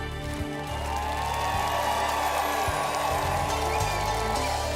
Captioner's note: applause